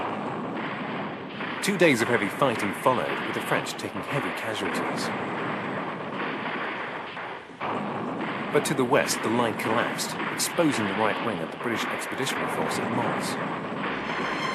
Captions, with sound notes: [bombs exploding] [guns firing] Two days of heavy fighting followed with the French taking casualties. [guns firing] [bombs exploding] [guns firing] But to the West, the line collapsed, exposing the right wing of the British expedition force in Mons. [bombs exploding]